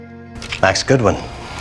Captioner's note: voiceover